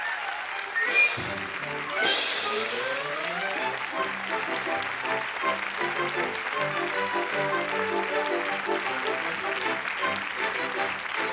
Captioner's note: applause; curtain call music plays